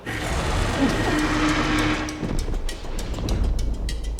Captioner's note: dragon growls